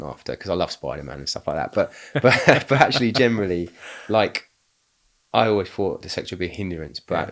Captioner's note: laughing